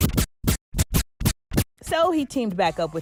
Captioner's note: scratching